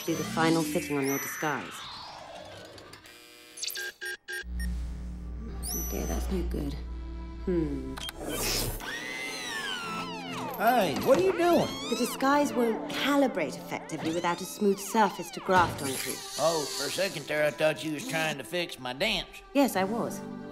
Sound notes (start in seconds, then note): 2.6 electronic alarm buzzes; 8.0 mechanical whirring